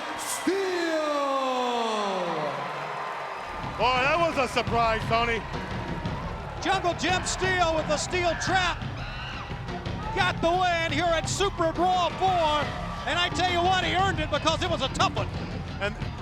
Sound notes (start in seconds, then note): 2.3 crowd cheering